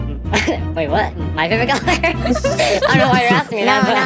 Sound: laughs

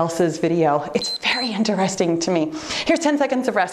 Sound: timer beeps

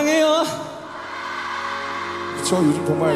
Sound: cheering

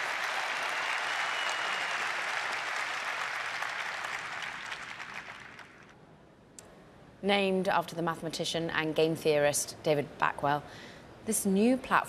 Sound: applause

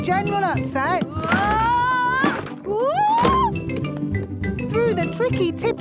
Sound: wood teetering

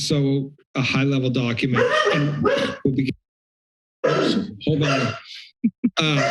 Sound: dog barking; laughter

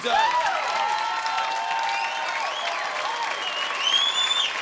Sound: cheering and applause

